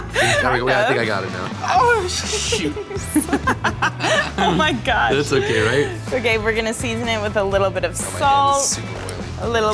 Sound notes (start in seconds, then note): 2.1 laughs